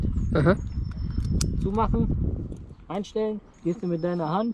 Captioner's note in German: klick